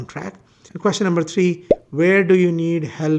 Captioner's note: bubble popping